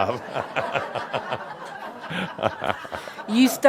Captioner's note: chuckles and laughter